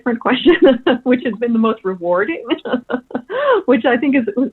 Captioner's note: laughs